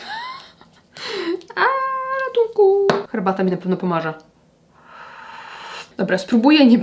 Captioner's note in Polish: śmiech